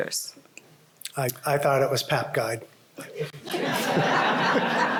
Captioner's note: laughter